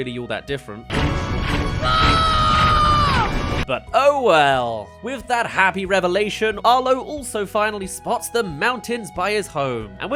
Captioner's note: scream